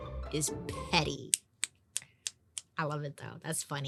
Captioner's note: clicking fingers